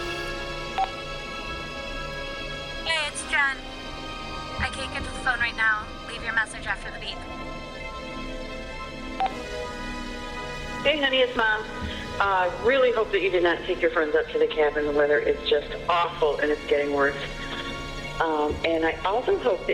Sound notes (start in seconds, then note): 0.7 phone beeps; 9.2 phone beeps